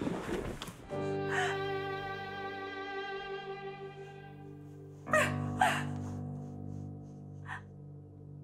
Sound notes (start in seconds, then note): 1.2 gasps; 5.0 sobbing